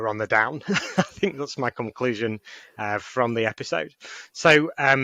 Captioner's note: laughing